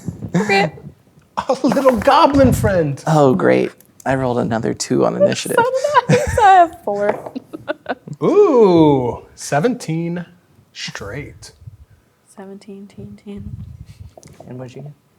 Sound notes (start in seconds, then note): 5.1 laughs